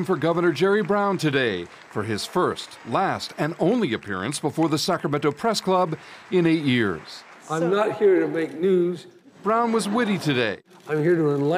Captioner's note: applause